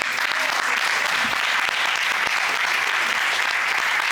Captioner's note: courtroom applauding